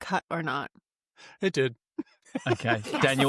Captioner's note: laughs